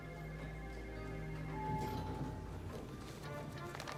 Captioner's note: bell